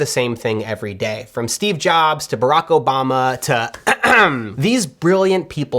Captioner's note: clears throat